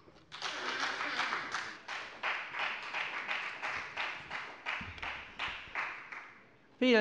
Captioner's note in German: Beifall bei der FDP